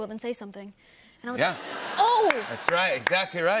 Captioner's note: laughter